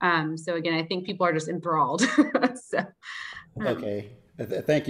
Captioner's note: giggles